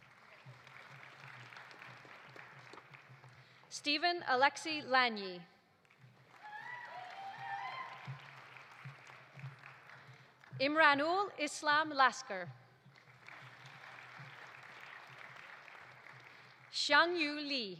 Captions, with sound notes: (audience applauding) Stephen Alexej Lanyi. (audience applauding) (audience cheering) Imranul Islam Laskar. (audience applauding) Xiangyu Li.